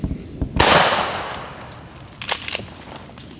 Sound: gunshot

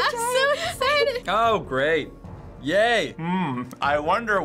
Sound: sarcastically

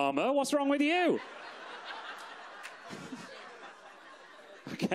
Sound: audience laughs

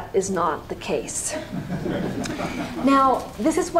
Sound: laughter

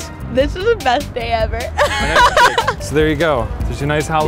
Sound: laughs

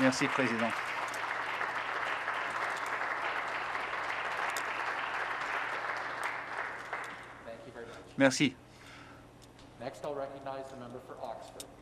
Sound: applause

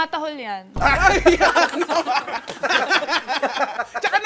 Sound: laughter

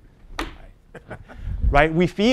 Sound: laugh

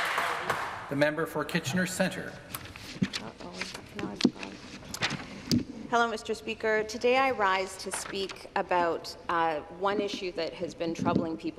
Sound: some applause

